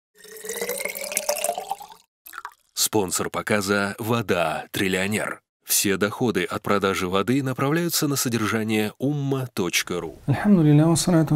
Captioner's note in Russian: Говорит на арабском